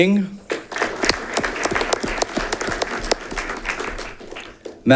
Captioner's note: audience clapping